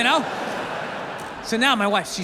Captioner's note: audience laughs